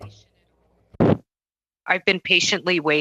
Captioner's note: speaking French